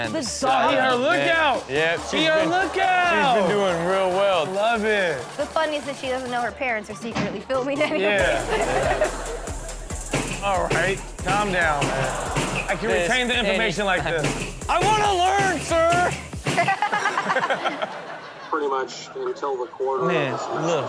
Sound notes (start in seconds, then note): 7.7 laughs; 11.2 table banging; 14.2 table banging; 16.3 all laughing